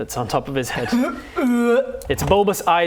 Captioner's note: dry heave